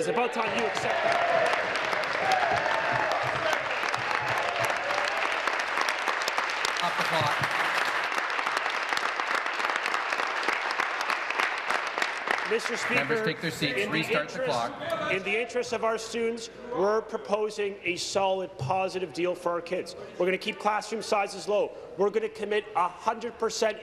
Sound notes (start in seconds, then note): 5.6 applause